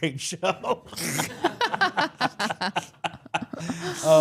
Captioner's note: all laughing; chuckling